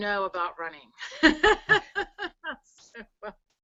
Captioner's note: laughs